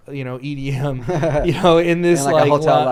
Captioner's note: both laugh